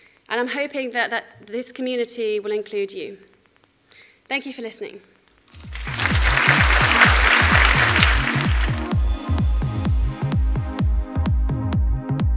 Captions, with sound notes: and I'm hoping that this community will include you. Thank you for listening. (audience applauding) (upbeat techno music)